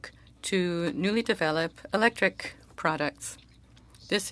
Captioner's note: speaking French